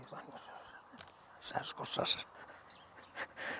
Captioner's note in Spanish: Ríe